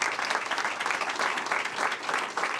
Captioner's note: applause